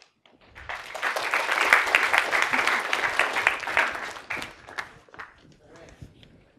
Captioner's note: applause